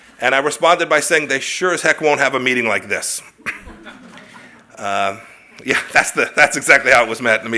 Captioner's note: laughs